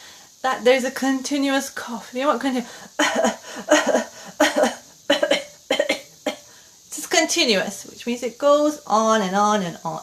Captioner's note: coughs